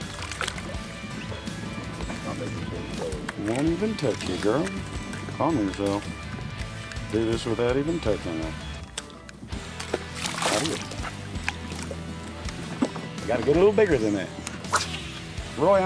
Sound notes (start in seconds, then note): 8.8 water splashing